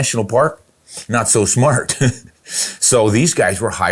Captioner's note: laughs